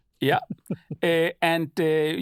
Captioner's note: nerveous chuckle